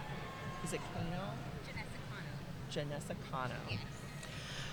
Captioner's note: speaking faintly